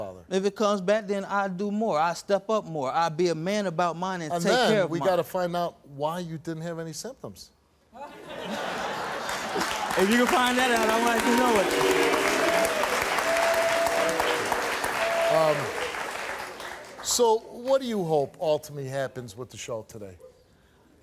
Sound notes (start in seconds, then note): 8.0 crowd laughs; 11.5 applauding